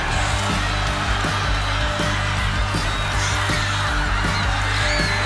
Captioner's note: audience cheers